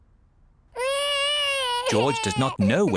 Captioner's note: crying